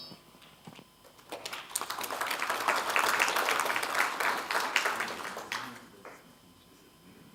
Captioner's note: applause